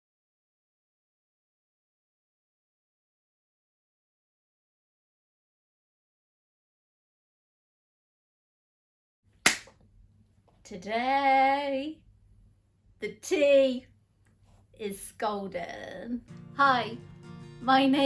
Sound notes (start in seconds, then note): 9.4 claps hands